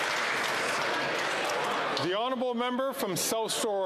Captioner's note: applause